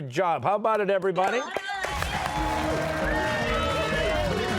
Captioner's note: cheers and applause